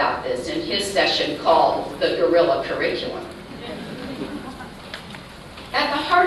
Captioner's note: laughter